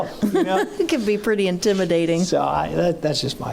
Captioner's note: laughing